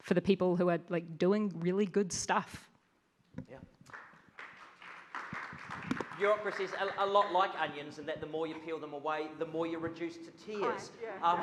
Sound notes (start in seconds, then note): 3.8 audience claps